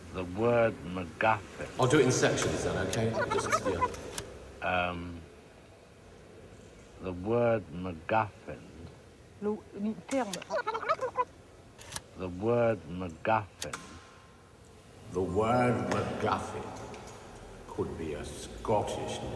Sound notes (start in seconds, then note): 10.2 recorded voice screeching in rewind